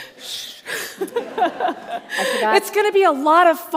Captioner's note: shushing; all laugh